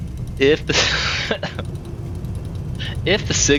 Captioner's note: stuttering